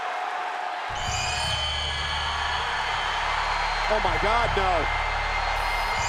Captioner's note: applause